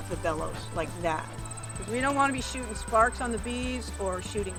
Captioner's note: small puff